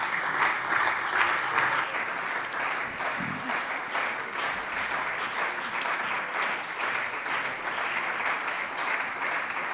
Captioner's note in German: Beifall bei der CDU und dem BÜNDNIS 90/DIE GRÜNEN